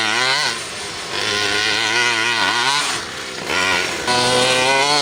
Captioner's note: truck engine revving